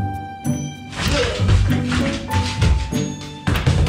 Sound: hurls voice

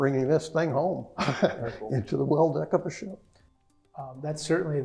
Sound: laugh

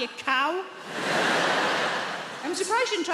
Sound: audience laughs

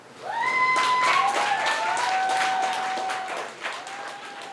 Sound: audience cheers and applauds

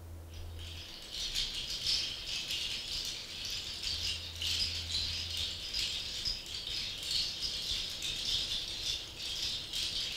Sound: toca seeds rattling

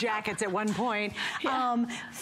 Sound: laughter

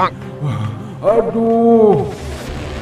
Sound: moaning in pain

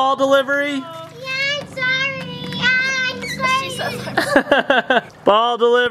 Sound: laughs

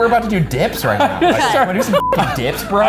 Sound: laughs

